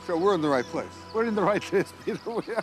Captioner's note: chuckling